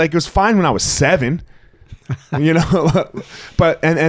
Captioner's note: laughing